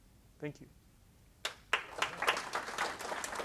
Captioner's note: applause